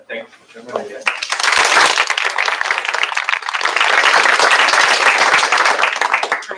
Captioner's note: applause